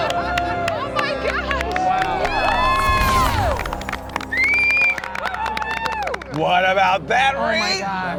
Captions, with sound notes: Oh my gosh! - Wow. (group applauds) Wow. - What about that, right? - Oh my gosh.